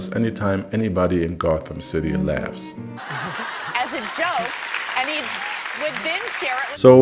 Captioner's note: laughing